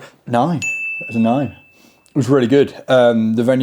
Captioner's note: bell dinging